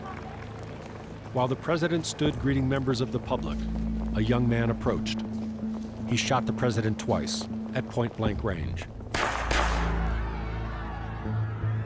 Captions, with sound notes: While the president stood greeting members of the public, a young man approached. He shot the president twice at point blank range. (gun firing twice, crowd clamoring)